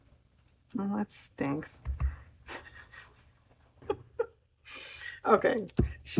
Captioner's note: laughs